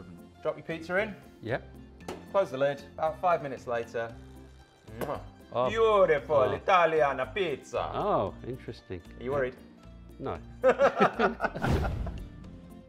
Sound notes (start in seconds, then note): 4.8 kisses; 10.6 both laughing